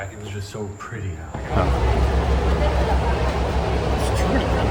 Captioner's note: crowd chattering